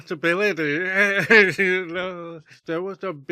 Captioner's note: laughs